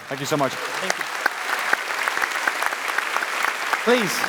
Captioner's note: applause